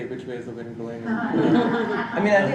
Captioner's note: laughing